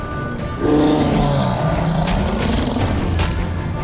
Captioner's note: roar